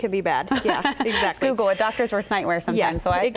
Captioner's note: laughs